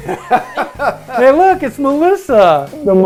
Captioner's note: laughs